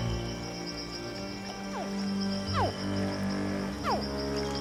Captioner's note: hatchling grunts